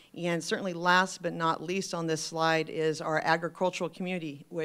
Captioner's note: none